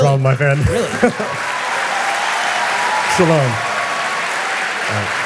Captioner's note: audience applause